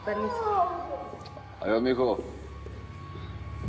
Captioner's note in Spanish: Exclamaciones